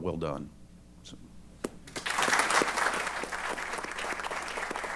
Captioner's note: applause